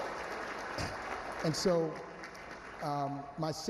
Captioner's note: applause